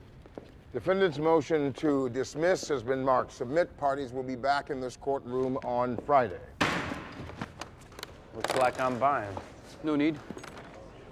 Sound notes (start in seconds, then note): 6.6 gavel bangs